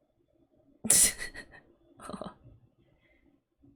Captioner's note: laughs